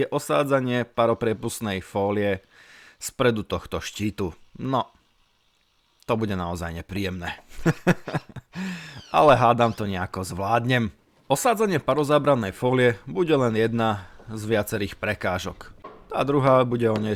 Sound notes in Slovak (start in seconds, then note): 7.4 smiech